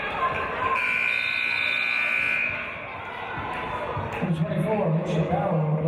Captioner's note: buzzer; referee's whistle